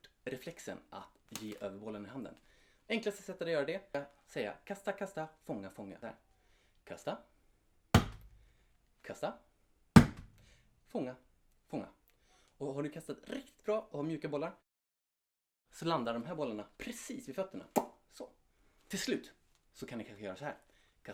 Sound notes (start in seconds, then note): 7.9 thud; 10.0 thud